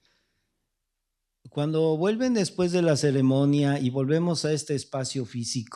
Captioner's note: speaking spanish